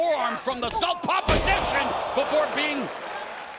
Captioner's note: knee striking